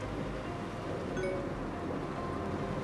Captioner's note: notification sound